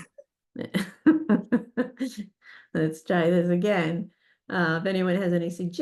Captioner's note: laughs